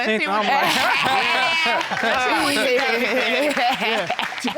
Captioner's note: all laughing